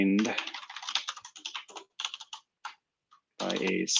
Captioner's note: typing